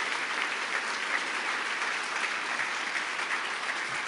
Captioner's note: applause